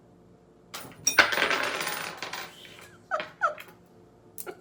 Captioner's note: coins jingling; laughs